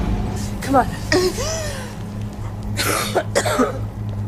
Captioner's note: sighs